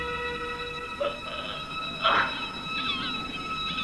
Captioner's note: groaning